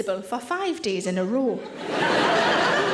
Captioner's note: audience laughing